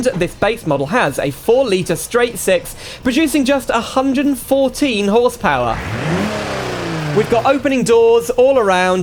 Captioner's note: engine Revs